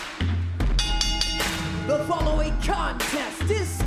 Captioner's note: bell rings